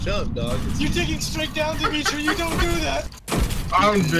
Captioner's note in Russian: смеются